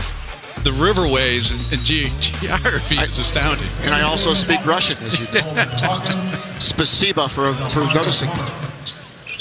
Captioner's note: laughter